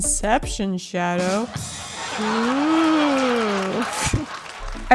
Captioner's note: ba dum tssss ironic audience laughter